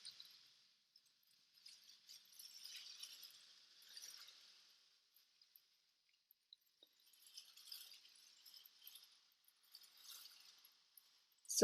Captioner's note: rustling sound